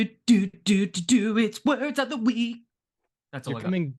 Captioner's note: beatboxes